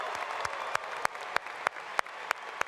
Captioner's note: applause